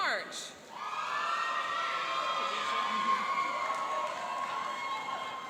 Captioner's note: cheering and applauding